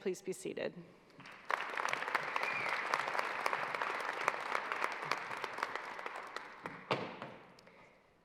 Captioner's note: applause